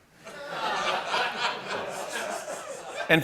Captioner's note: laughter